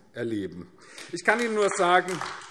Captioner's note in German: Beifall AfD